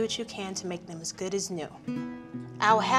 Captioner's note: none